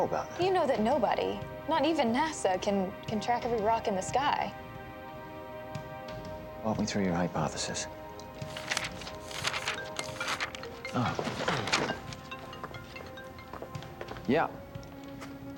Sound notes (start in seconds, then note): 9.8 cell phone ringing